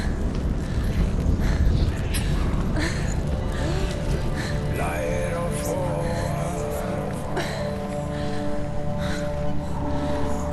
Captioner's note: indistinct chatter; indistinct chatter